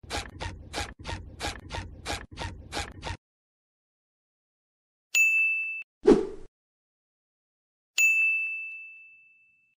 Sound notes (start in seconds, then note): 5.1 ding!!; 6.1 woosh